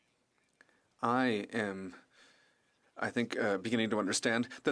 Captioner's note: speaking french